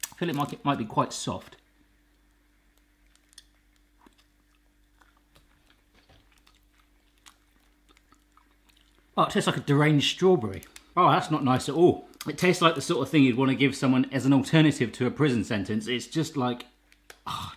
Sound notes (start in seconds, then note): 4.8 chewing